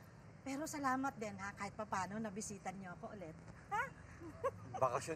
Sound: chuckles

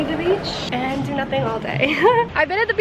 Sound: laughs

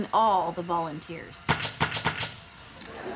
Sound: nailing

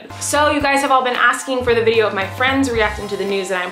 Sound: none

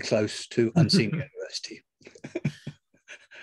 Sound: laugh

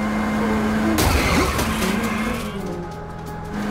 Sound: car crashing

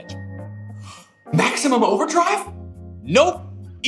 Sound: gasps

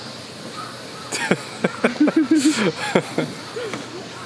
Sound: overheated laughing

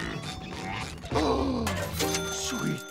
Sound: gasps

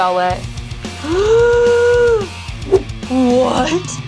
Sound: Catboy gasping

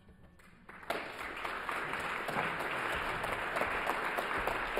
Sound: audience applauds

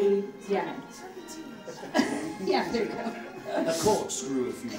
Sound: audience laughing

